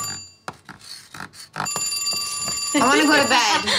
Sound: chalk scratching; phone ringing; Snooki laughs

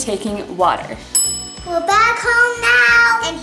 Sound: bell rings

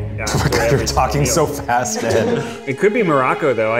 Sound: laughs

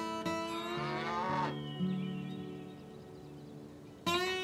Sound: mooing

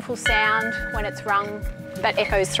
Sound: bell chiming

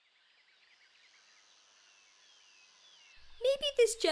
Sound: birds chirping

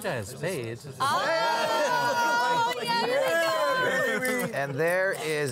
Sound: all exclaiming

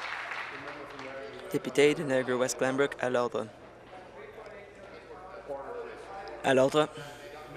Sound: applause

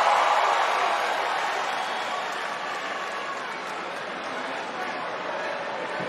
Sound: cheering

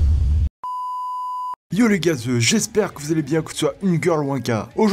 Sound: beep

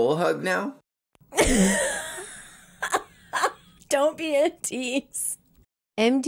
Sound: laughs

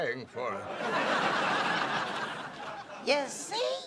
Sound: laughter

